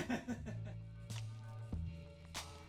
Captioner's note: laughter